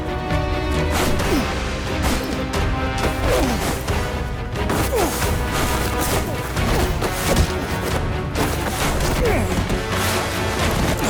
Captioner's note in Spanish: Ruidos de la lucha